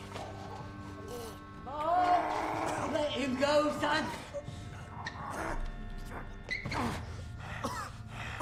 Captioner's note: choking